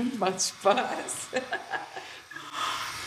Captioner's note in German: Sie lacht